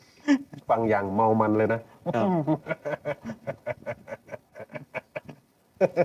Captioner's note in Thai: เสียงหัวเราะ